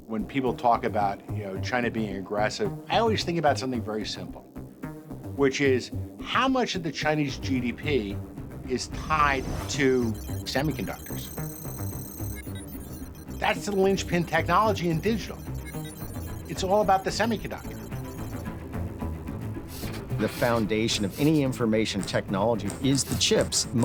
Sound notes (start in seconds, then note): 11.5 computer calculating sound effect; 18.3 suspenseful music